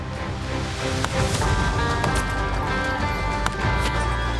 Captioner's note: gunfire